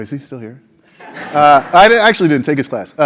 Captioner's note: laugh